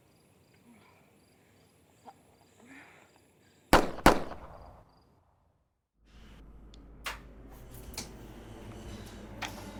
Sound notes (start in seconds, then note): 3.7 gun firing